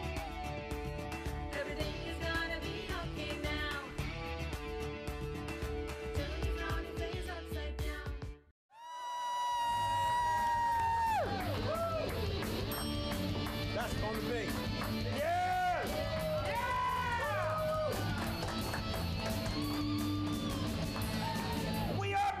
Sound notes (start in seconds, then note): 3.3 uplifting indy music; 8.8 audience cheering